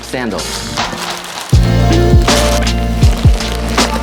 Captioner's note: plastic packaging paper scrunches; upbeat music